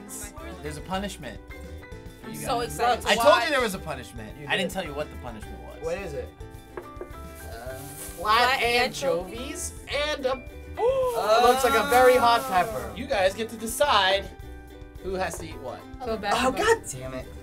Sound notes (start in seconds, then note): 10.8 gasps